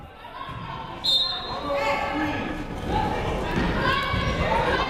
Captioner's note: whistle blows